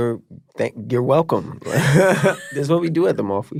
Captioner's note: laughing